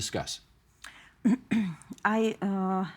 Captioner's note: clearing throat